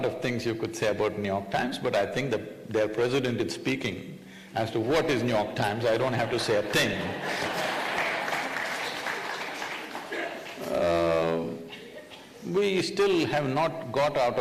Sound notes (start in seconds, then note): 9.4 laughter/Applauses